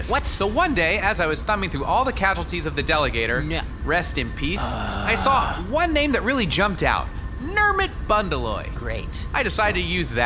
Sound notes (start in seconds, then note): 4.6 Nermut sighs loudly